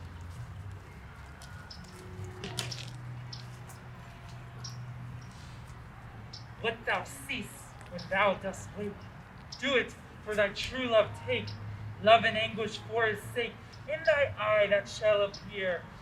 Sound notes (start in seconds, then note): none